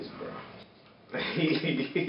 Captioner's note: laughs